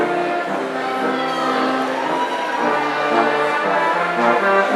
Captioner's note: audience cheering